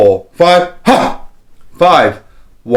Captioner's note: exhales